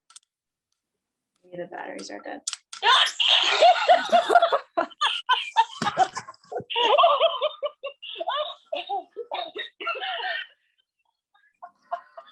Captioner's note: stuffed toy monkey laughs